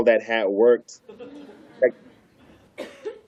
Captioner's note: laughter